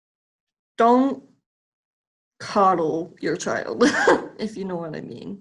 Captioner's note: chuckles